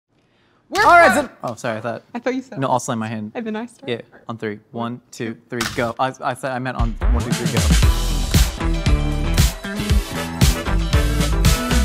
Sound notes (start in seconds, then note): 5.7 grate clangs; 6.7 groovy instrumental music